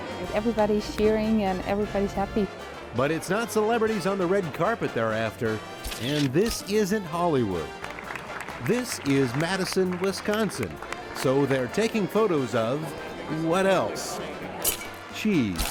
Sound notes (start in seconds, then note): 7.3 applause